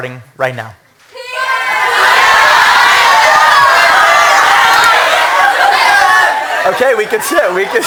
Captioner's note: people yelling